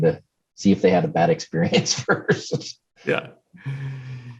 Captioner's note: laughs